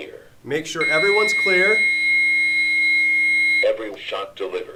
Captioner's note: long Beep